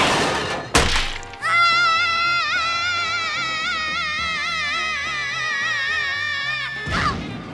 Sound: screaming

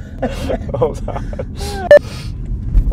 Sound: laughing

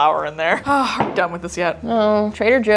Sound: sighing

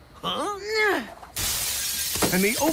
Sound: glass shatters

